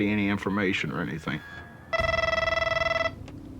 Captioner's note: phone rings